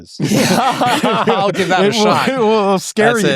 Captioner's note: laugh